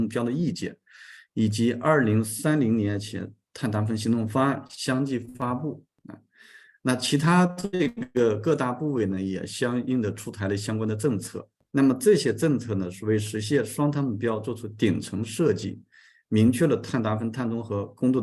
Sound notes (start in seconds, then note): 6.3 continues to speak in Chinese